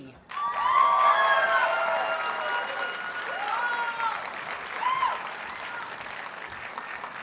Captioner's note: audience cheers and applauds